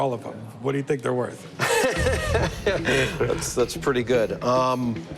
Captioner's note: laughs